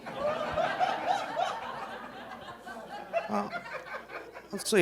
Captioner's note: audience laughing